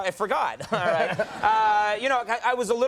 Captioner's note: audience laughing